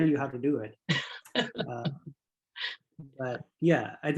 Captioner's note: laughing